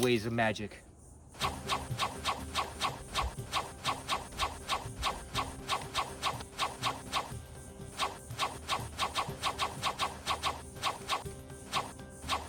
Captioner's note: magical whooshing